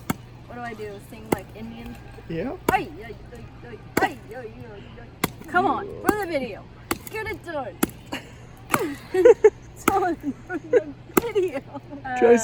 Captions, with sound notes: What do I do sing like an Indian? - Yep. - Come on, ruin the video. Get it done. (laughter) This is all for the video.